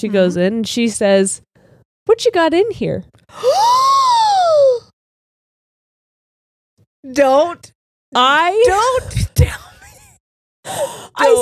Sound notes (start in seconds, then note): 3.6 gasps; 10.1 laughs